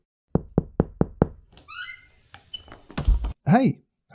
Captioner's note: door knocking